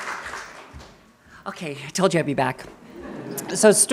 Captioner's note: audience cheering and applauding